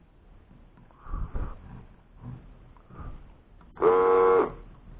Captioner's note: blowing